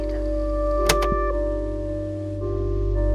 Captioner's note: click